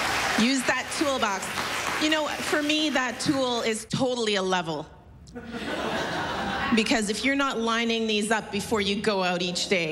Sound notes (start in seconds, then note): 5.3 laughter